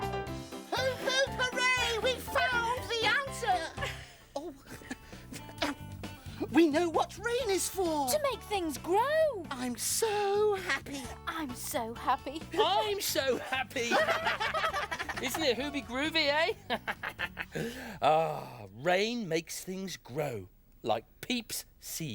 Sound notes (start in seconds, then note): 13.3 all laughing; 16.6 chuckling